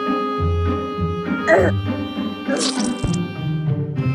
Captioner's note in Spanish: sonidos de terraria